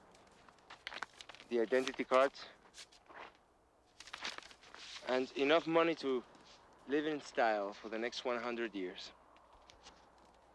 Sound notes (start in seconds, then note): none